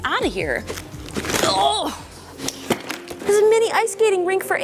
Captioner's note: straining